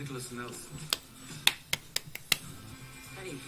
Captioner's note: clapping